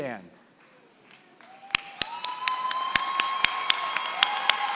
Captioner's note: applause